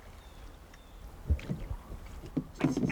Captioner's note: bird chirps